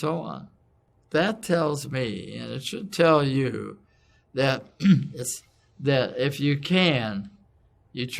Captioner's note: cough